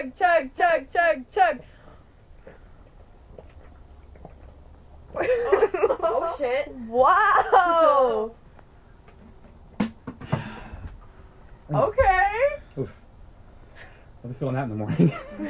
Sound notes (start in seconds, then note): 2.3 gulping; 5.2 everyone laughs; 9.8 bottle slams; 10.2 exhaling; 14.8 everyone laughs